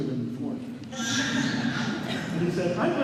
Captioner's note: laughter